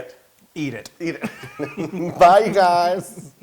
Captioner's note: laugh